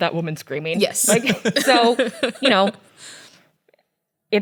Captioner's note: laughs